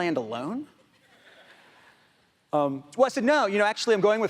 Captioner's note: audience laughs